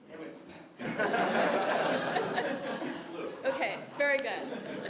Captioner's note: laugh